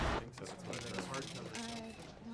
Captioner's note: people chattering; cash register clacking